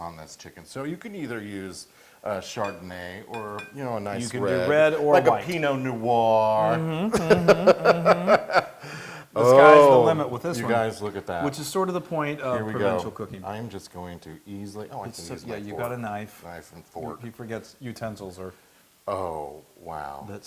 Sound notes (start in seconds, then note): 6.6 laugh